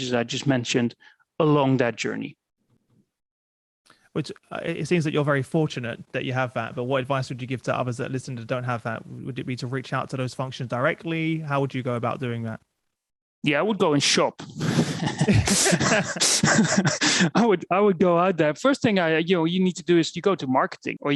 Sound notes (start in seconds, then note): 14.8 laughter